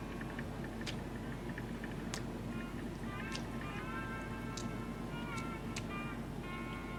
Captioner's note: chewing sounds